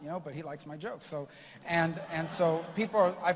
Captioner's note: laughter